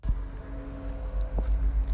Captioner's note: bells